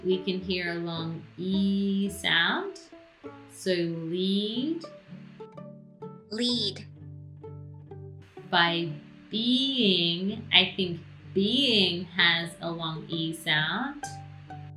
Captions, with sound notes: we can hear a long E sound. So lead. - [Automated Voice] Lead - By being, I think "being" has a long E sound.